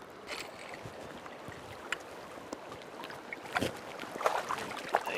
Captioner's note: splash